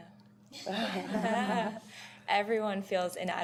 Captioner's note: laughter